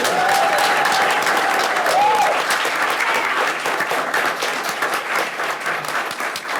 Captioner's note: people cheering; people clapping